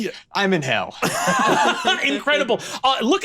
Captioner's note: laughs